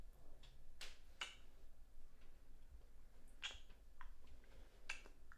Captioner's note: both kissing softly